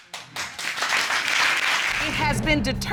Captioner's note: audience applauds